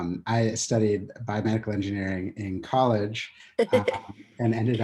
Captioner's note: laughs